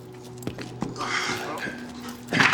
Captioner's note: sighs